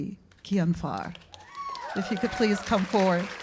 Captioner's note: cheers and applause